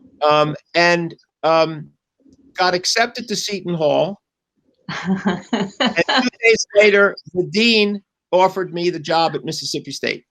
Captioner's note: laughter